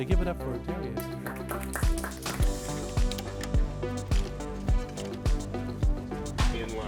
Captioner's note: gentle electronic music; students applauding; electronic music